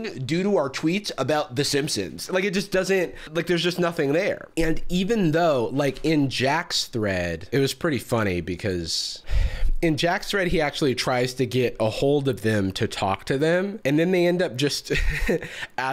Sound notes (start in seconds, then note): 8.9 sighs; 15.2 laughs